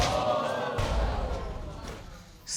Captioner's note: audience exclaiming